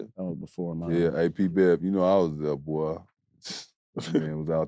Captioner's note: scoffs